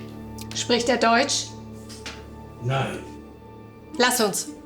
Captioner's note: Fredriech speaking German